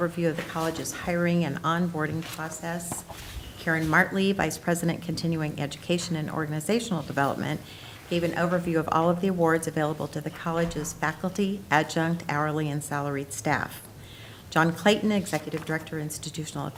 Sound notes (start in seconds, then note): none